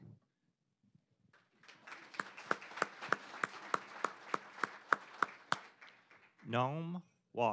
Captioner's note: applause